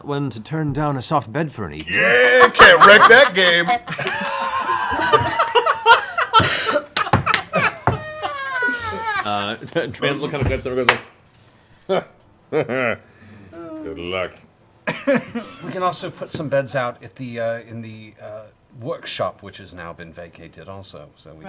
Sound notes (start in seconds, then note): 3.9 laughter; 13.0 laughs